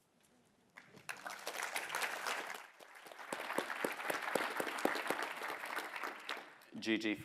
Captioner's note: applause